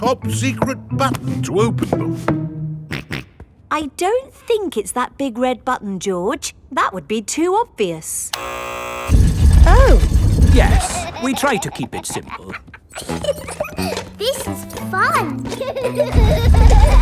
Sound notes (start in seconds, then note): 2.9 snorts; 8.3 buzzer sounds; 15.4 giggles